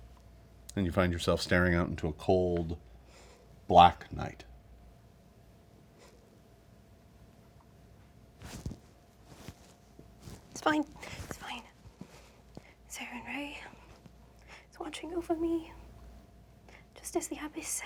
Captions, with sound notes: and you find yourself staring out into a cold, black night. (shuffling) - It's fine, it's fine. Sarenrae is watching over me, just as the Abbess said.